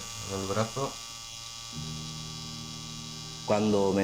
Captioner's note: sound of tattooing